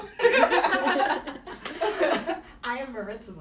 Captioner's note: laughter